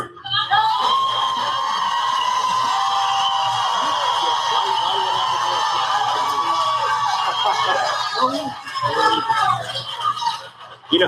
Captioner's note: applause